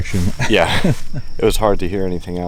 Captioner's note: laughs